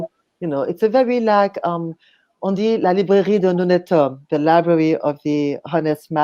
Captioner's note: French